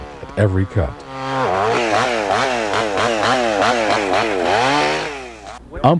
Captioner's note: tool whirring